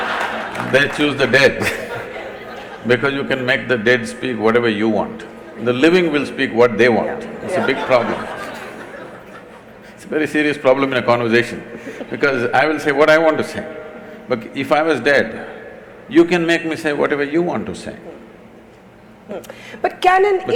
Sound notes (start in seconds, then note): 0.0 laughter/Applause; 0.0 laughter; 7.3 laughter